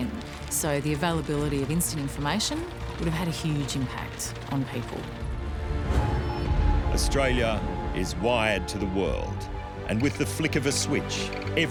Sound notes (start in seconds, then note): 5.6 telegraph wires buzzing